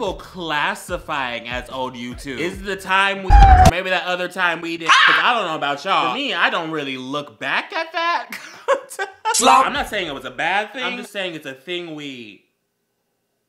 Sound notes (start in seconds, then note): 8.6 wheezing